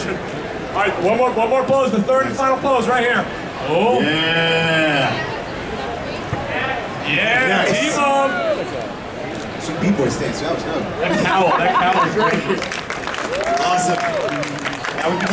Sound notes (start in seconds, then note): 11.7 audience clapping